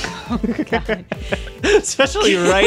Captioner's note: laughing